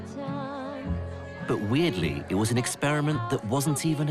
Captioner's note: voiceover